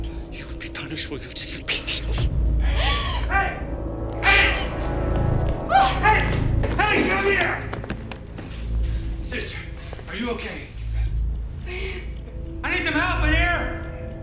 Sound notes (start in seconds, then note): 4.2 Alejandra shrieks